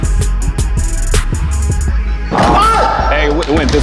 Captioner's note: intense music; heart beating